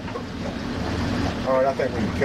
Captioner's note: talking